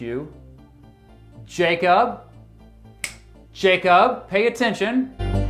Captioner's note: snaps fingers